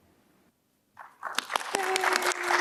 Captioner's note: audience claps